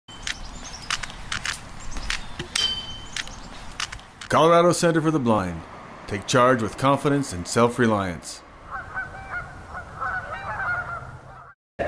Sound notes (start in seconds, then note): 0.1 white cane tapping, birds chirping ,and city sounds; 8.6 geese honking…